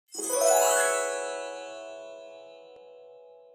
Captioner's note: gentle chimes